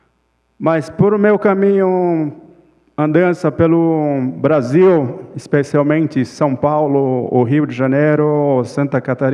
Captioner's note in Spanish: Ponente habla en portugués